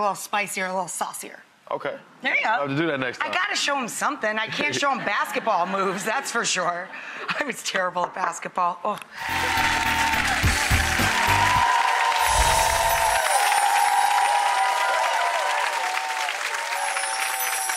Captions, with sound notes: a little spicier and a little saucier. Okay! There you go! I will do that next time. I gotta show him something, I can't show him basketball moves, that's for sure! I was terrible at basketball, ugh! (audience applauds and cheers) (dramatic swoosh)